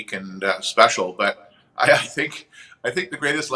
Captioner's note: chuckles